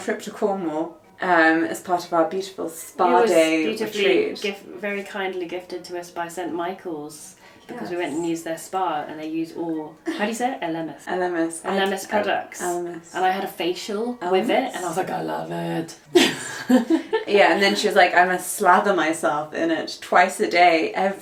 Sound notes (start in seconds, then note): 9.0 speaking Spanish; 16.1 laughs